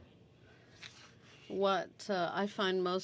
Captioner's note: speaking French